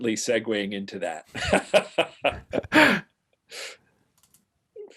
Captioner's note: laughs